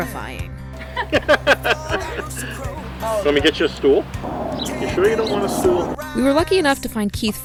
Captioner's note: laughing